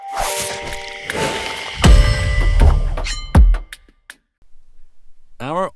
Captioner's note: screen whooshing; lively music